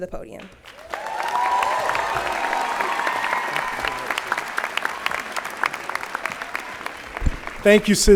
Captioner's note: applause